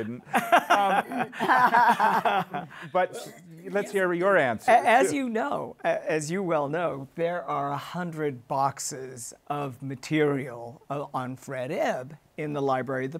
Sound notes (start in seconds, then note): 2.4 all laughing